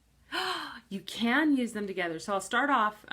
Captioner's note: gasps